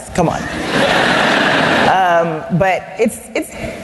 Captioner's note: laughter